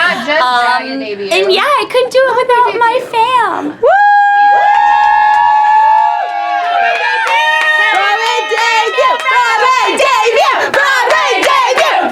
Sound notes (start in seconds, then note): 3.8 group cheering and yelling